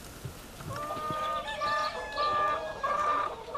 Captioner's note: chickens clucking